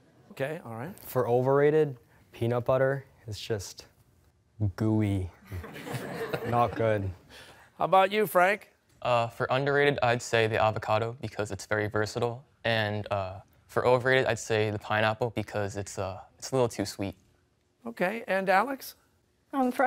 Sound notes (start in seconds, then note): 5.4 laughter